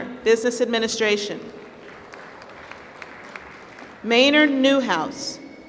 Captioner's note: applause